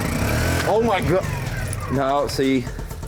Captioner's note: generator revs down; generator revs up